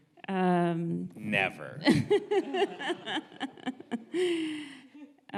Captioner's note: audience laughs